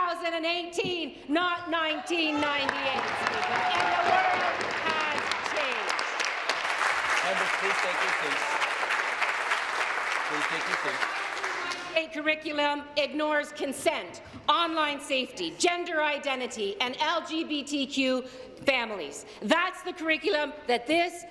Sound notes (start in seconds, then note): 6.5 applause